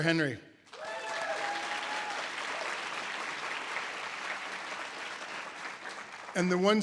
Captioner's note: audience applause